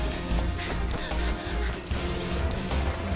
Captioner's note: panting